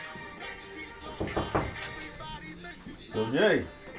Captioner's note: knocking